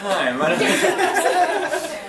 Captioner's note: laughs